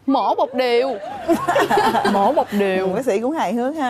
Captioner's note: laughing